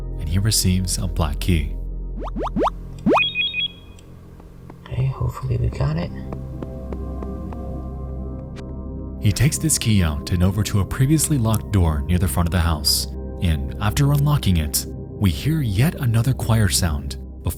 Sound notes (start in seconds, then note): 3.0 loud tones; 6.6 ominous music continues